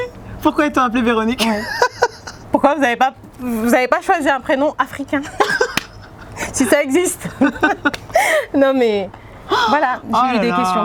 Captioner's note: laughs